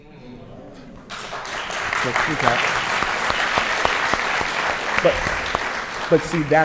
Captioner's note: applause